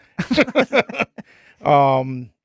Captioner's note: laughing